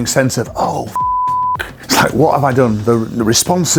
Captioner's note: beep